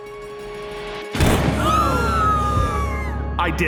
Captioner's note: gunshot